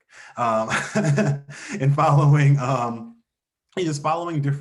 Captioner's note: laughs